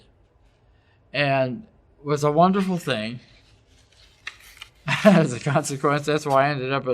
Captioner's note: laugh